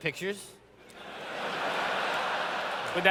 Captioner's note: laughter